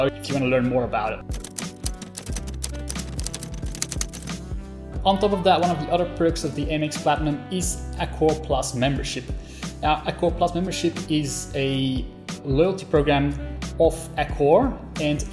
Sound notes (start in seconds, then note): 1.3 keys clacking